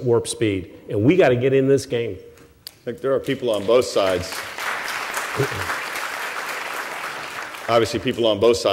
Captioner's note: applause